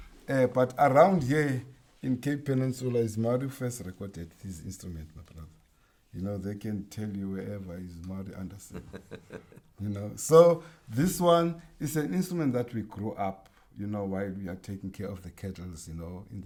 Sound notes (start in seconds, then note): 8.6 chuckles